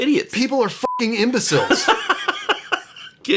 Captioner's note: beeping